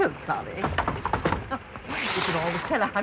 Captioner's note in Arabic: يغلق الباب بصوت عالٍ